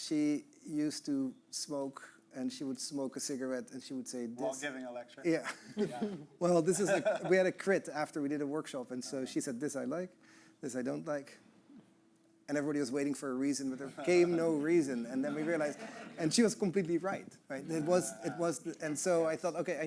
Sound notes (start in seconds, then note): 6.6 chuckling; 15.0 audience laughing